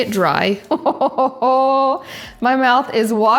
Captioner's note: laughing